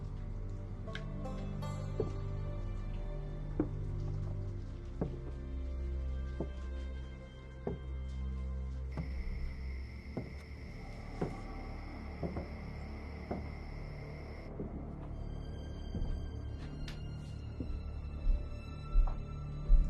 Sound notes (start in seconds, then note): 1.4 footsteps